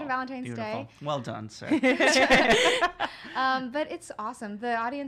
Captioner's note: laughing